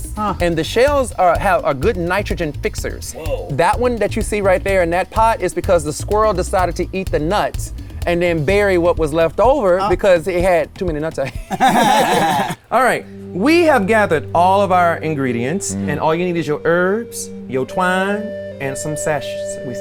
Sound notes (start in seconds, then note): 11.2 guys laugh; 13.8 dramatic music